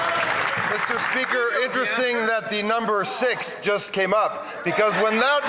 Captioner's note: some Applause